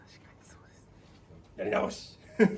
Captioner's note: laughs